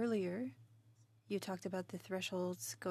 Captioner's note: speaking in French